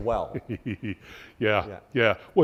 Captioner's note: laugh